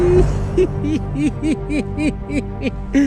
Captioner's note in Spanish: risas de emoción